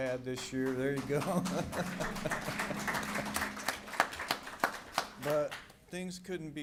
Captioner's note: applause